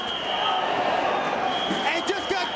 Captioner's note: spectators exclaiming